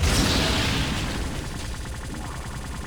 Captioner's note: explosion